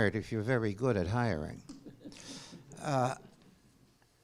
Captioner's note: laughter